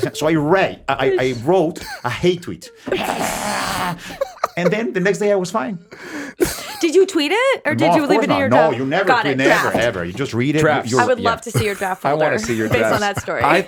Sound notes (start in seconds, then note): 2.8 Justin, Liz and Jamey laugh; 2.9 Jaime growling